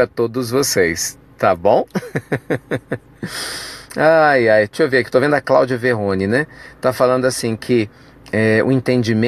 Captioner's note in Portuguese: risos